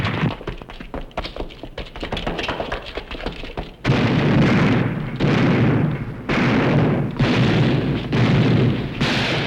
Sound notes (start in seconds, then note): 3.8 gunshots